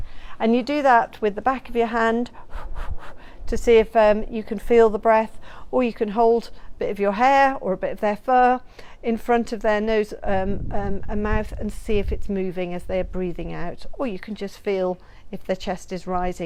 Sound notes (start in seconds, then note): 2.3 exaggerated breath sounds